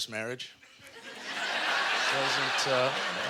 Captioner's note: audience laughter